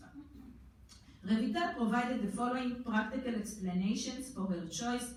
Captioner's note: foreign language